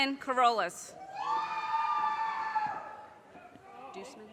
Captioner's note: audience cheers and applause